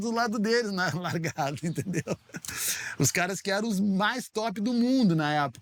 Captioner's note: laughing